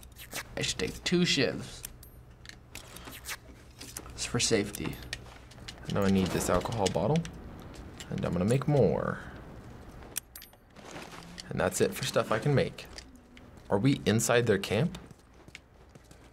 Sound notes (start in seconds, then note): none